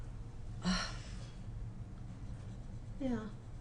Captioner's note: sighs